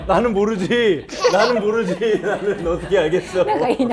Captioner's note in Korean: 헤헤